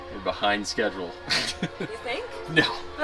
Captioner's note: laughs